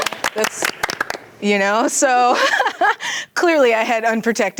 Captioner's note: teens clapping; laughs